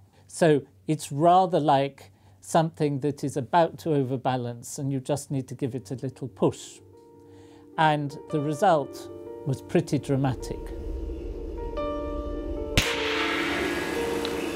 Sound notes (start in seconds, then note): 12.7 bang